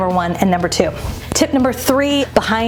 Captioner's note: air whooshing